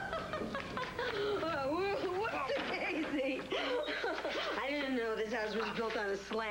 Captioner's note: roxy laughs